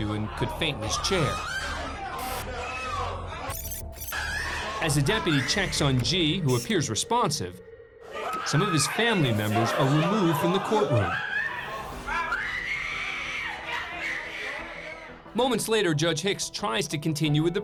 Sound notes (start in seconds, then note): 4.2 woman screaming; 11.5 screaming and shouting continue